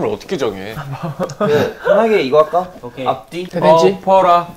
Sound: argh

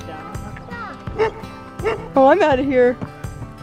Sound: barking

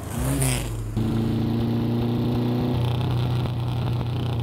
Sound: car engine revving

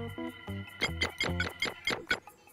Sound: keypad tones

